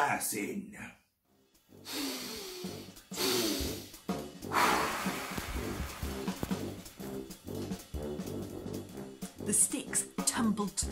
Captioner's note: breath in